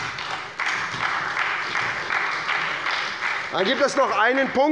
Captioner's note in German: Beifall bei der SPD